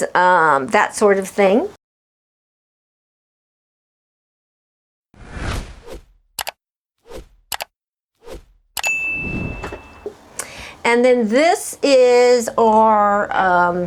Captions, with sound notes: that sort of thing. (air whooshing) (bell dings) And then this is our,